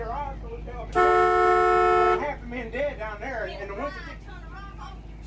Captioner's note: horn honking